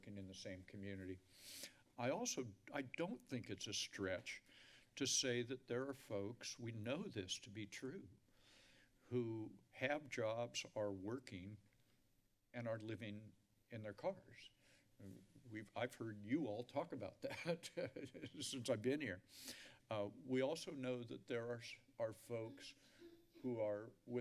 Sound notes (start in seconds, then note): 17.2 laughs